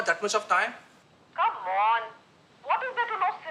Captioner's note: on phone